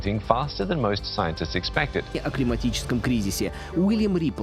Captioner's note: speaking Russian